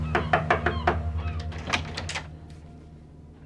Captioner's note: gulls calling; knock on door